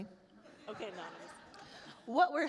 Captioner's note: attendees laugh